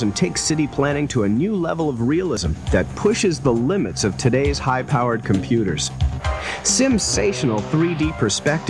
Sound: voiceover

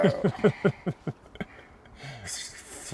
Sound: laughing

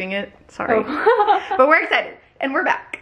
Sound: giggling

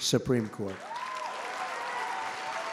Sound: applause

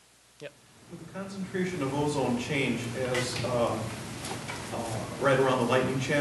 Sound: voiceover

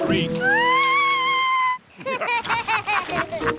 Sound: shrieks; laughter

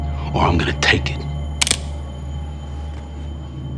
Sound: cocks gun

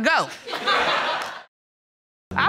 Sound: audience laughs

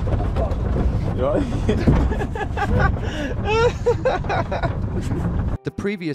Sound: laughs

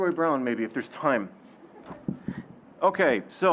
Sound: audience chuckling

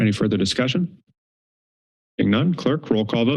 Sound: pause

